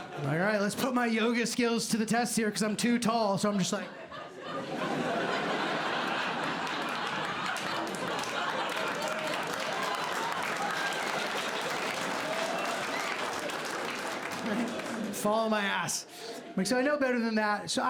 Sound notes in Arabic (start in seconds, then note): 3.8 ضحك; 8.0 تصفيق